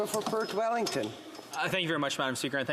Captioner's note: speaking indigenous language